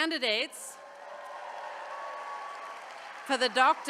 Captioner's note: attendees cheering